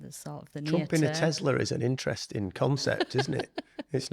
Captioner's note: a light chuckle and a few smiles